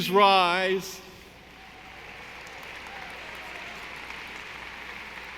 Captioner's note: audience applauding